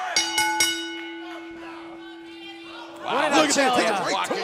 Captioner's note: bell ringing